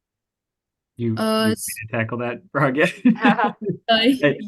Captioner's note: chuckles